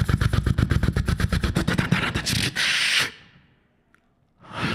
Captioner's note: beatboxing